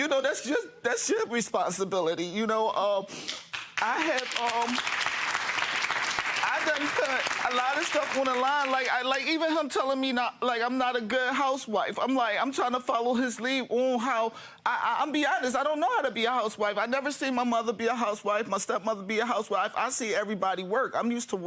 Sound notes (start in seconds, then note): 3.3 audience clapping